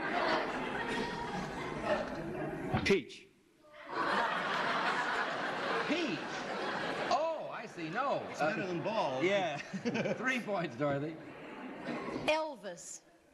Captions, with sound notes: (laughter) -Peach. (laughter) -Peach? Oh, I see. No. -It's better than bald. -Yeah. (laughs) Three points, Dorothy. -Elvis.